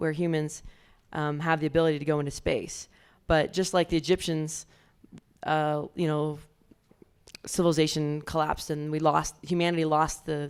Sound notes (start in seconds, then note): none